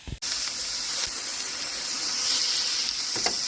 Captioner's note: meat sizzling